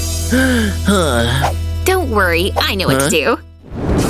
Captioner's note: sigh